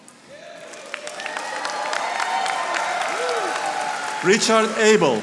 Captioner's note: audience applauding